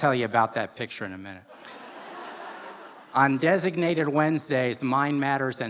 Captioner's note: laughter